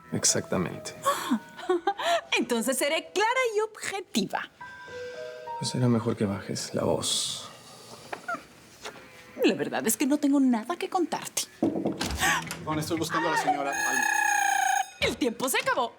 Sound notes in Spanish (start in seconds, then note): 1.0 Ella ríe; 11.6 Toques en la puerta; 13.6 Suena un timbre